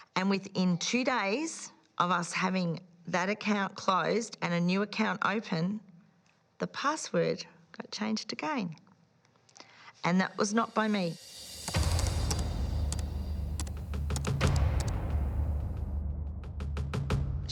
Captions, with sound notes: And within two days of us having that account closed and a new account open, the password got changed again. And that was not by me. (dramatic music) (keyboard clicking)